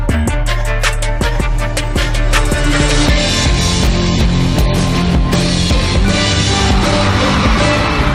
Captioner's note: applause